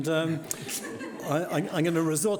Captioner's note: audience laughing